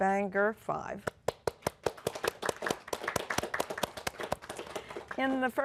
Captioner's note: applause